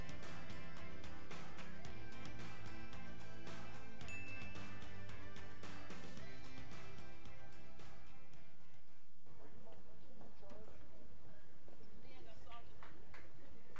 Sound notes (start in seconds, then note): 4.0 bell dinging; 9.3 people murmuring and applauding